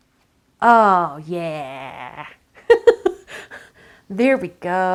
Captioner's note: laughs